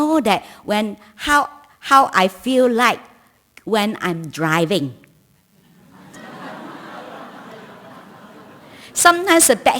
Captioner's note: laughter